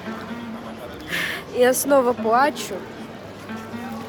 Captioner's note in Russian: вздох